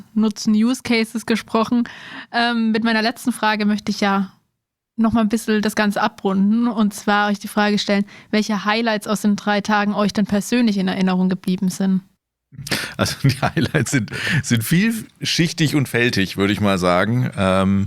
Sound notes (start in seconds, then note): 12.6 laughs